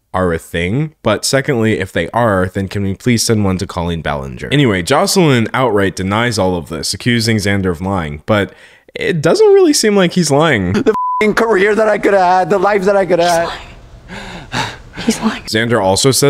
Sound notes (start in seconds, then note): 10.8 beep